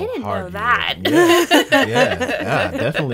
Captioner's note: laughing